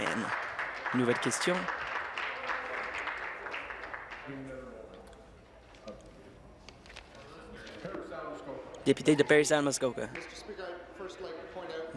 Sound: applause

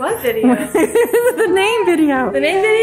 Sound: laughs

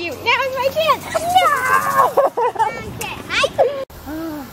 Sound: laughs

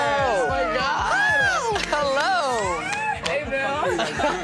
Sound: all cheering

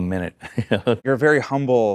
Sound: chuckles

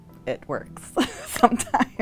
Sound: laughing

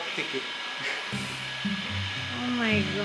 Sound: chuckles

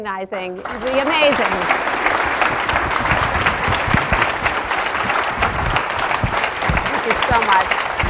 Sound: applause

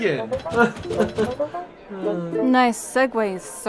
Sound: nervous chuckle

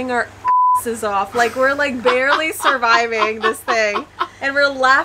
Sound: beep

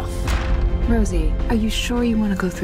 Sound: door slamming

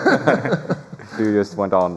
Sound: laughter

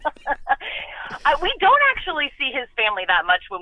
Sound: laughs

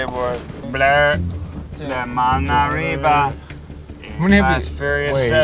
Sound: back seat chatter

